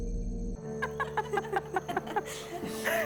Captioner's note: laughter